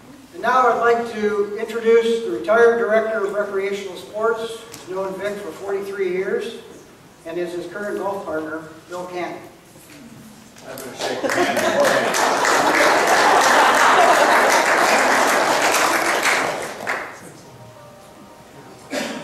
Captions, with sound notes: And now I'd like to introduce the retired director of Recreational Sports who's known Vic for 43 years and is his current golf partner, Bill Cannon. - I'm going to shake your hand beforehand. (audience clapping)